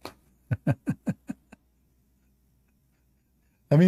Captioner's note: Ketawa